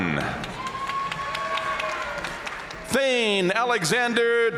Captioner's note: audience cheering and applauding